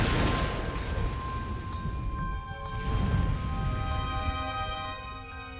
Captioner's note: thunder